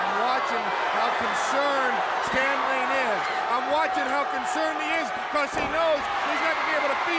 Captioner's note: crowd chatter